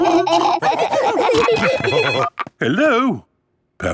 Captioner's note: laughing; phone ringing